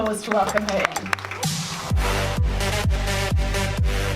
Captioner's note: applause